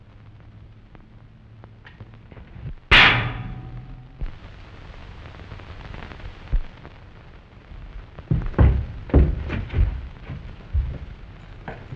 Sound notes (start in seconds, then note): 2.9 clang